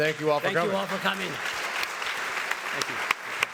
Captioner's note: audience applauds